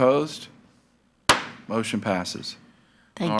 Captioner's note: gavel thuds